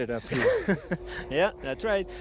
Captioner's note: laughter